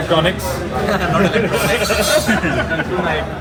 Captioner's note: everyone is laughing